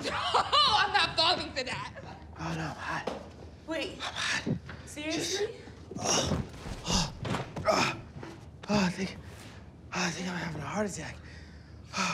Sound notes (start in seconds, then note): 7.6 Rufus groans